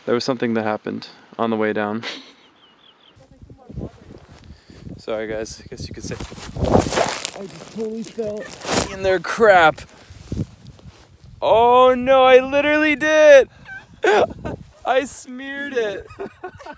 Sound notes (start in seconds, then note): 2.0 chuckles; 5.6 shuffling; 13.6 laughing